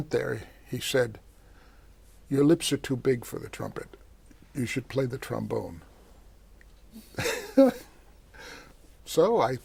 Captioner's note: laughs